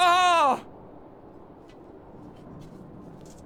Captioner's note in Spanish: silencio frustrado